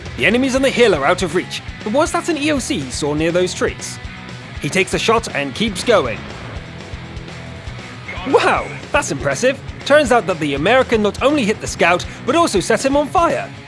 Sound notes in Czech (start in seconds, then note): 7.8 zvuk zničeného nepřítele